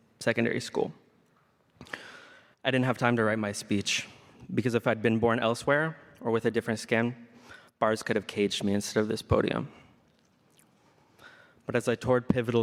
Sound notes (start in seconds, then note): none